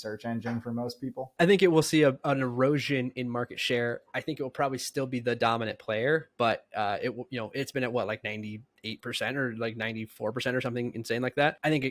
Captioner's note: speaking